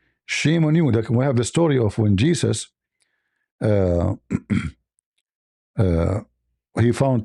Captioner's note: clears throat